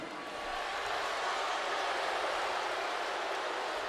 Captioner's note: crowd booing